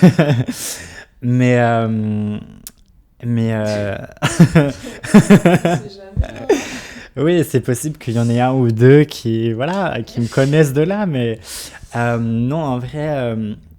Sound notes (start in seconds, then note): 0.0 laughs; 4.1 laughs